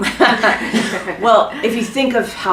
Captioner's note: chuckle